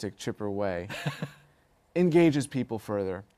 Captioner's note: laughter